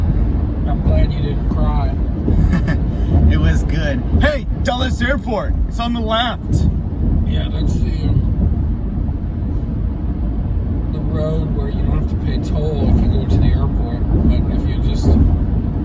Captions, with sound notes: I'm glad you don't cry. [chuckles] It was good, Hey! Dulles Airport. It's on the left. Yeah. That's the um... the road, where you have to pay toll if you go to the airport. But if you're just...